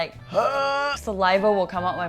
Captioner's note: monsterous sound